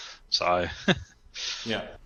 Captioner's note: laughs